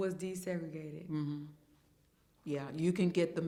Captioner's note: hums in agreement